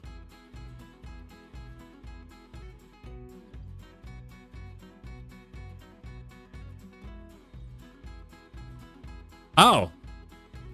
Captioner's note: laughs